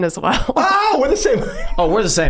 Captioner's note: laughs